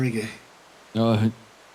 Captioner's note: wake up Noises